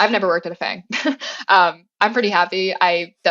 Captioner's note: laugh